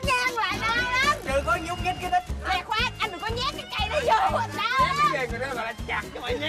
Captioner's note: arguing